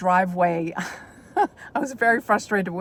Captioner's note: chuckles